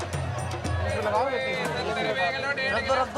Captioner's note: foreign language spoken